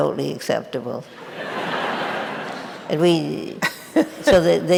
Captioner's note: audience laughing